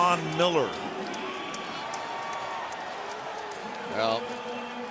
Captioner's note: pa announcement